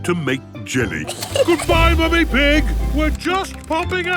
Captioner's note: giggles